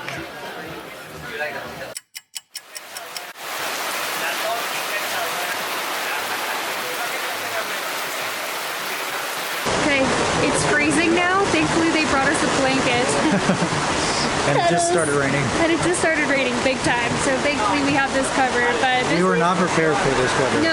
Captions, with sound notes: 24 minutes later (Rain sounds) Okay, it's freezing now! Thankfully, they brought us a blanket. It just started raining. It just started raining big-time! So thankfully we have this coverage...we were not prepared for this weather.